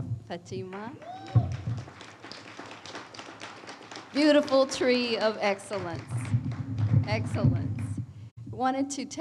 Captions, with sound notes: - Wow, another another hand for Fatima. (audience applauds) Beautiful tree of excellence. Excellence.